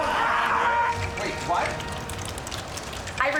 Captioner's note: in English